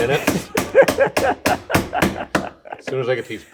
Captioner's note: laughing